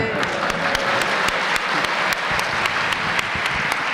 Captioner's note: applause